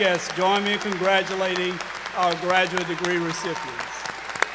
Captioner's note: cheers and applause